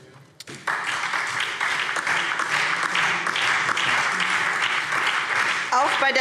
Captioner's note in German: Beifall SPD und DIE LINKE